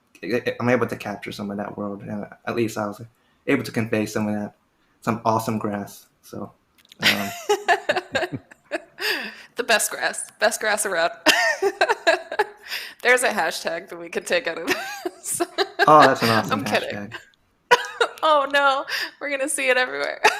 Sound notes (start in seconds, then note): 7.0 laughter; 11.3 laughs